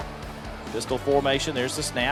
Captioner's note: voiceover